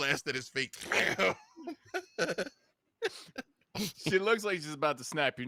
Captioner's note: imitating explosion